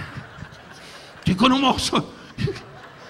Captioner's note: audience laughing; Don speaking in Japanese; Don laughing; laughing